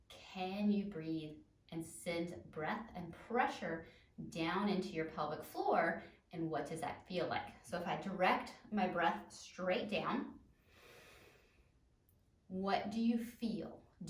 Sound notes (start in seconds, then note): 10.6 deeply inhales